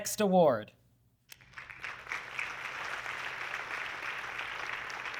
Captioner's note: audience clapping